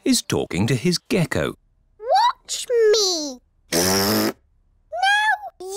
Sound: blows raspberry

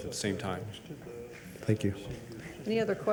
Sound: people chattering

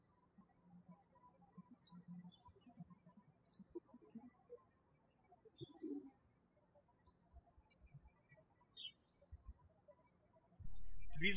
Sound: birds chirping

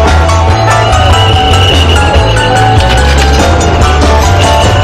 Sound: traffic whistle

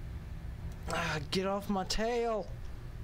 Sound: sigh of frustration

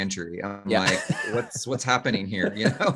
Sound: laughing

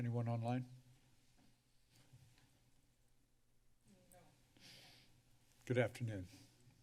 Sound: silence

